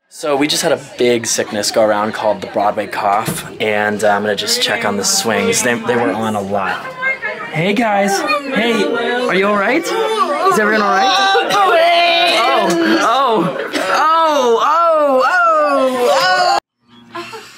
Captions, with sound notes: So we just had a big sickness go around called the Broadway Cough. And I'm going to just check on the swings. They, they were on a lot. Hey guys. Hey. Are you all right? Is everyone all right? (coughing and hacking) Oh, oh, oh, oh, oh, oh.